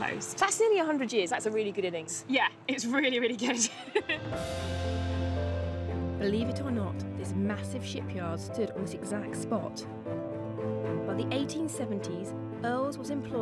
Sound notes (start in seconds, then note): 6.9 laughs; 7.3 majestic orchestral music